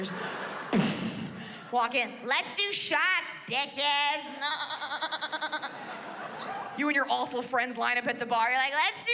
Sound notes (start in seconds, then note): 0.1 mimics thudding; 4.4 mimics baaing